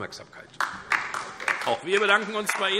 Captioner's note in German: Beifall DIE LINKE